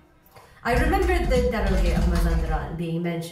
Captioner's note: tapping on laptop keyboard